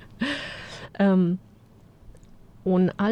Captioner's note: gasp